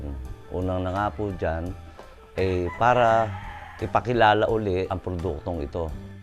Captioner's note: none